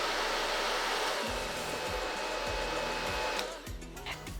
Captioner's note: reduced roaring of dryer